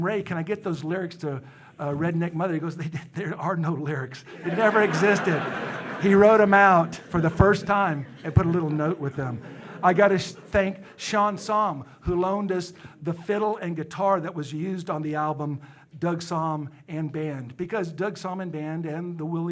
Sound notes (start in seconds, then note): 5.6 audience laughing